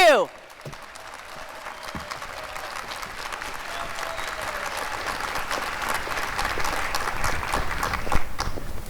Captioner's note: cheering and applause